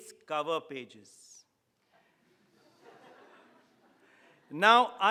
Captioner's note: audience laughing